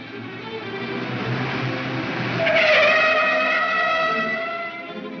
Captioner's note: tires screech